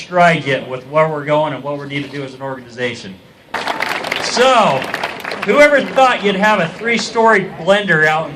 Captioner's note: applause